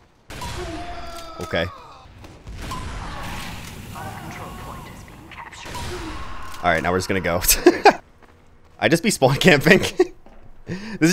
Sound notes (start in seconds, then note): 0.2 guns firing; 0.7 man screaming; 2.0 guns firing; 3.9 man screaming; 7.4 laughs; 10.5 laughs